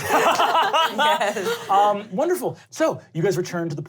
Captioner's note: laughter